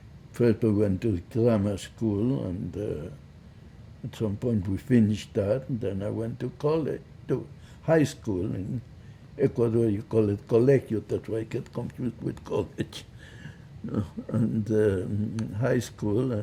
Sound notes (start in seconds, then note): 10.5 spanish